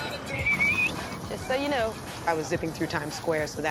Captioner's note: whistles sharply